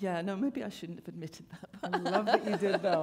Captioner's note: laughter